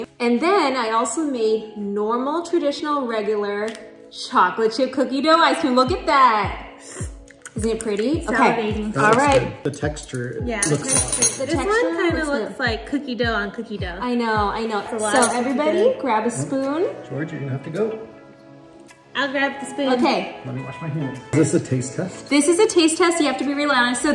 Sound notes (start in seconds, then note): 7.2 female friend smacks lips